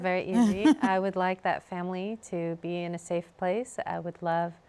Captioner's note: laughs